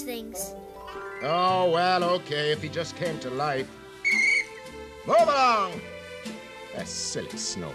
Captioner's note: blows whistle